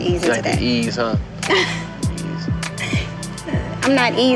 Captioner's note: laughing